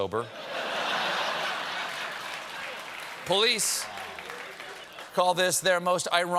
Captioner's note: laughter